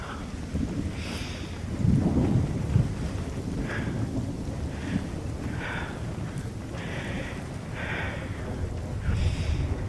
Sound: thunder storms

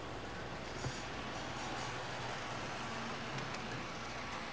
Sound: cutlery clinks quietly, miniature train whirs

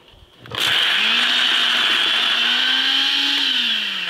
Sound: blender running

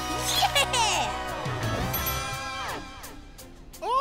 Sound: bell dings

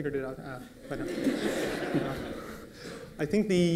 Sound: laughter

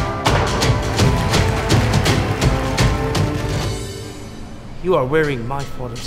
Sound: cheers continue while music crescendos; loud thwack

